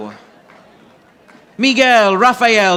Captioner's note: audience applauding